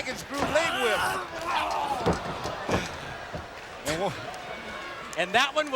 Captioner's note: wrestlers grunting